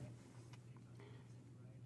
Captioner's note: speaking in French